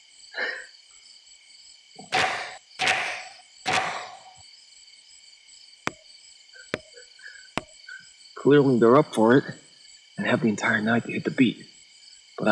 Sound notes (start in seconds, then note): 0.3 Bailey laughs; 1.8 heavy knocks cracking; 6.7 wood tapping